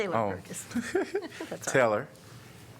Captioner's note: laughter